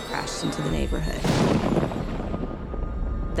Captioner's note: explosion